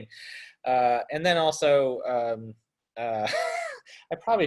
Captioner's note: laughs